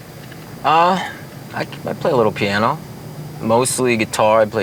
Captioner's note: none